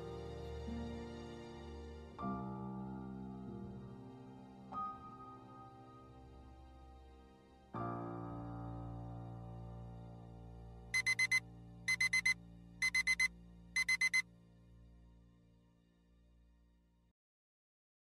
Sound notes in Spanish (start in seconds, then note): 10.9 Despertador